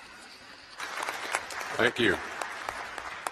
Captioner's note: applause